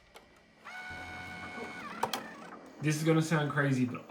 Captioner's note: computer whirring